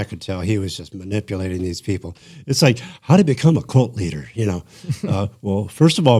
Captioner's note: laughter